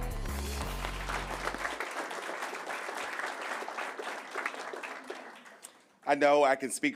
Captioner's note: applause